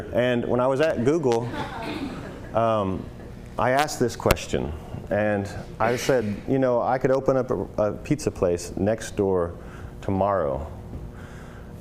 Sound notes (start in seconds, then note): 1.4 laughter